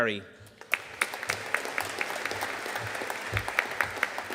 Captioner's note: audience applauding